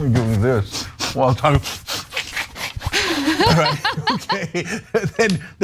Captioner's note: laugh